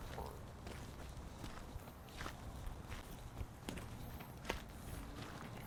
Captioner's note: footsteps crunching continues